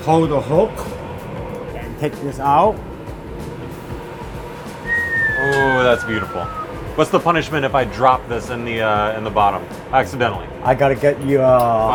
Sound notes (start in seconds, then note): 4.8 whistling